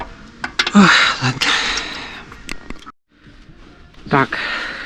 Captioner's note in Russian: вздыхает